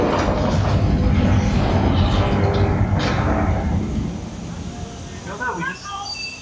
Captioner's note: train rumbling; lights flickering